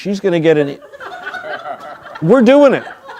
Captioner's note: crowd laughing